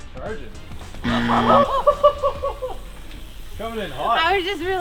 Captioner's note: bell buzzing; laughing